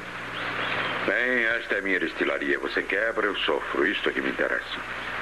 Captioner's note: none